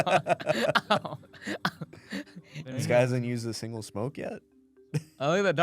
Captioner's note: laughs; laughs